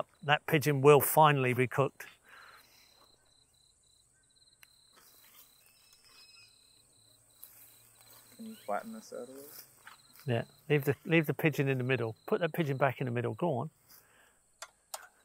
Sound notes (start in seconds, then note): 4.2 insects chirping; 4.2 tools scraping